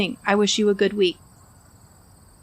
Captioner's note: background sounds fade out